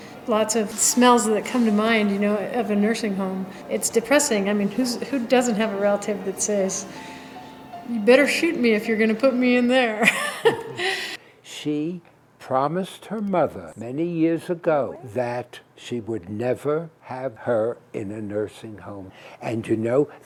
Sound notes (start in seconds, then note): 10.0 laughs